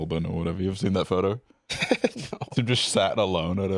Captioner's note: laughing